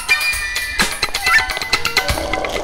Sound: slurping

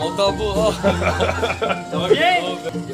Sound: laughs

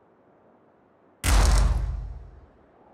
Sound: distant thud

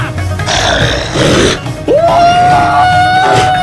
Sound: werewolf snarls

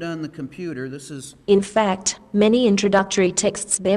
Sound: female Australian accent

